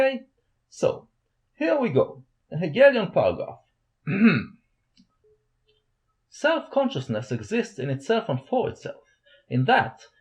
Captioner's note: ahem